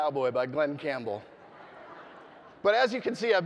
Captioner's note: audience laughing